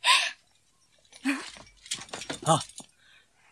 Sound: SFX: unsheathes sword

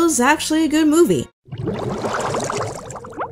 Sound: bubbles rising sound effect

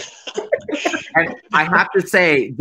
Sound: laughing

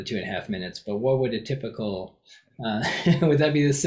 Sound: laughs

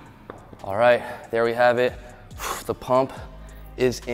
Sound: dumbbells clattering; exhales

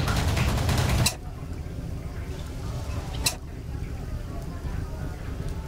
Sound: tense music; extinguisher squeaking

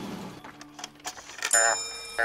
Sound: bell chimes; croaking

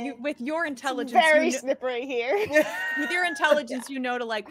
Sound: chuckles

